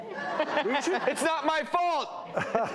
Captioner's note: laughter